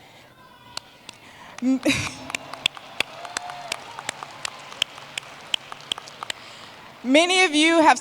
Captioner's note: applause